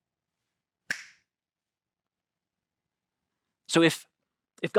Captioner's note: fingers snapping